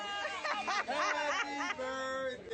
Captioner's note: people laughing